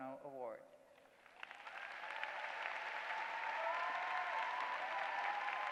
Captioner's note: applause